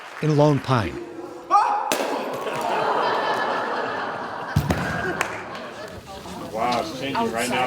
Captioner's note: bottle breaking; person hitting mat